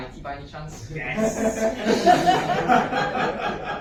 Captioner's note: audience laughs